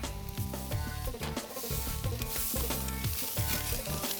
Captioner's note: naans sizzle